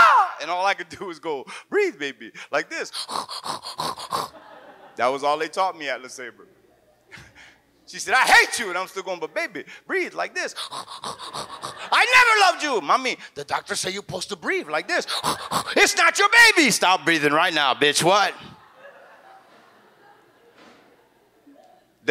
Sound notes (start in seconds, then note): 2.9 snorts; 3.8 audience laughs; 10.5 snorts; 10.8 audience laughs; 15.0 snorts; 18.2 audience laughs